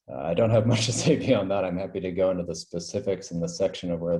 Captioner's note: laugh